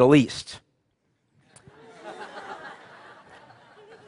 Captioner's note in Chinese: 笑聲